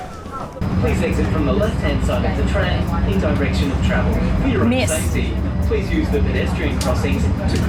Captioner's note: Tram announcement arriving at Northcliffe station